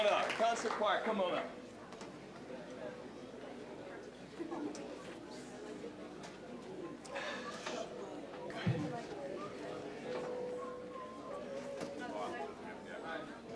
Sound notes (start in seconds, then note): 2.8 general chatter